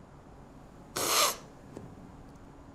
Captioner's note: sniffles